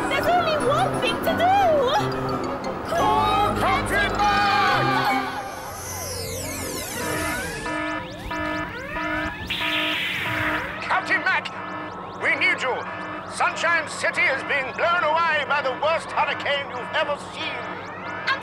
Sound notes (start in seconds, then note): 7.0 alarm!